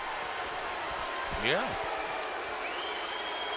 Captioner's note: crowd chatter